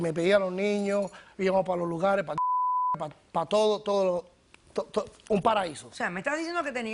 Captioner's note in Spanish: Bip